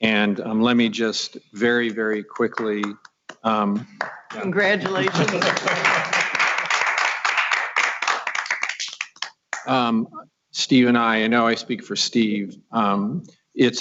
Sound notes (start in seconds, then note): 6.2 applause